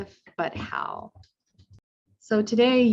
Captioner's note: footsteps plodding